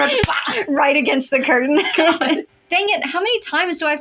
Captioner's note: laugh